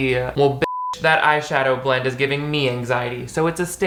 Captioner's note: beep